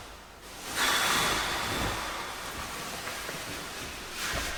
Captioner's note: breathes out heavily